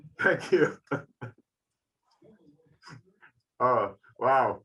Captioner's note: laughing